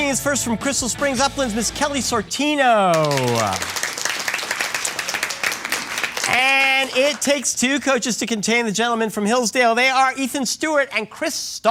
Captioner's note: applause